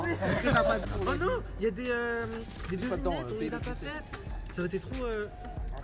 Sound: gasps

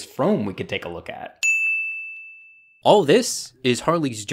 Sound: bell rings

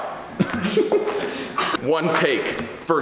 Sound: laughter

